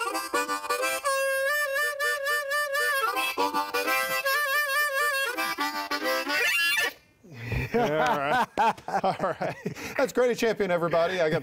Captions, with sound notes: (laughing) (clapping) All right, that's Grady Champion, everybody!